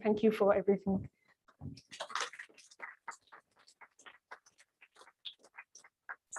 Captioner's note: applause